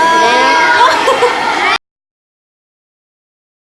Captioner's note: laughing together